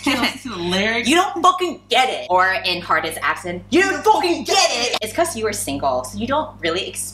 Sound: British

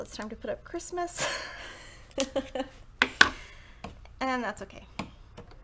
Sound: chuckles

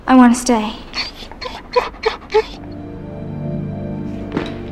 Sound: dog whimpering

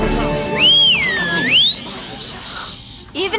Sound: whistles loudly

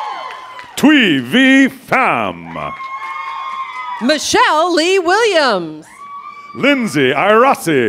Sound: cheers and applause

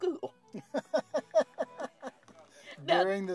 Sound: laugh

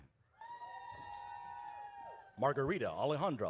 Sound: audience cheers

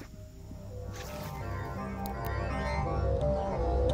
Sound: humming sound

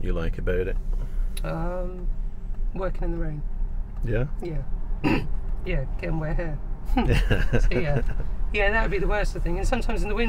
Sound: laughing

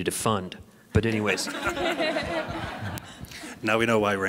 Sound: laughing

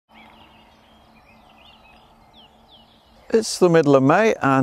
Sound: birds chirping

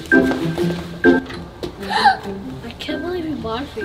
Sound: gasps

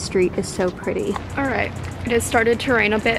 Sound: rain falling

